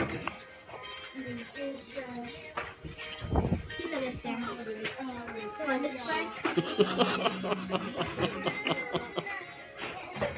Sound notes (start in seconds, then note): 6.4 laughs